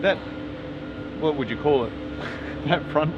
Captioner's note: laughs